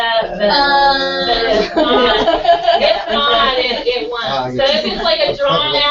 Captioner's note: laugh